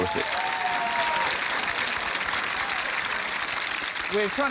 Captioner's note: applause